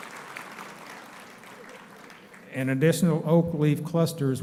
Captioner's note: applauding